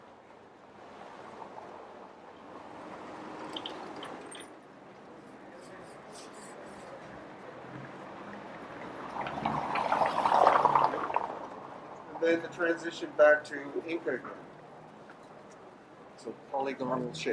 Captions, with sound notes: (cars whirring) (car whirring) And then the transition back to Inca, so polygonal shapes.